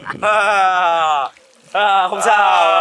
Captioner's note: laughter